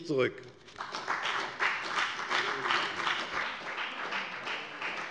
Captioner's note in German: Beifall bei der FDP